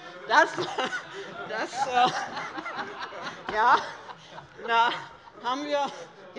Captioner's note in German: Heiterkeit